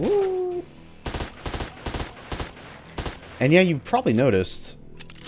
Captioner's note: MAC-10 firing